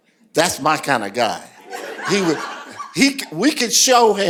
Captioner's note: laughter